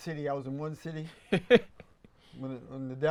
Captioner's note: laughs